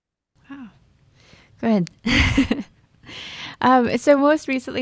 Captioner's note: laughs